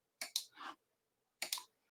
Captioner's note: mouse clicking